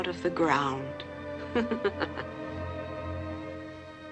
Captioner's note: laughs